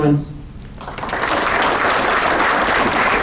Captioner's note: applause